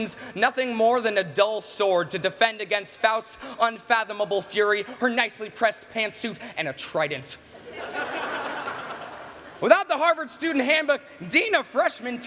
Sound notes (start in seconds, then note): 7.5 laughter